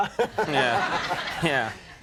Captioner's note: Stephen and audience laughing